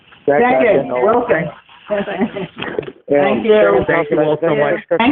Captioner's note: laughing